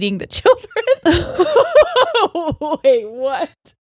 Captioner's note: laughing